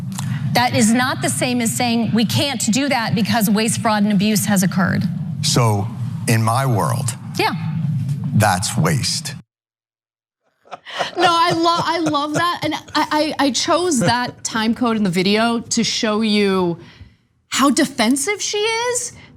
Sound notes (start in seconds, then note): 10.6 laugh